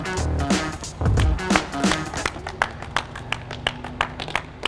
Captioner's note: funky hip hop beat; clapping